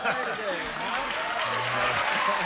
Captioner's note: applause